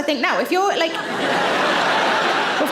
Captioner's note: audience laughing